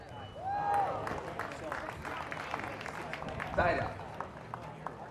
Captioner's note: audience applause